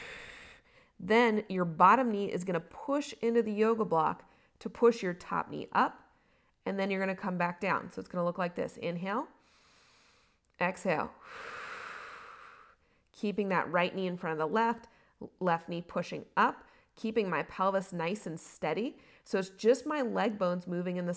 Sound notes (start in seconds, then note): 11.2 inhales; 11.2 exhales